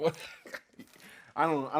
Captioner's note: laughing